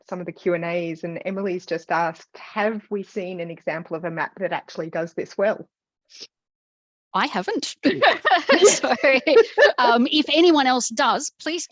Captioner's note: laughs